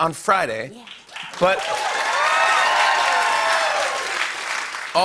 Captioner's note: cheers and applause